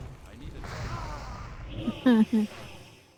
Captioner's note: chuckles